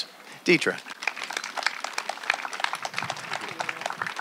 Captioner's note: applause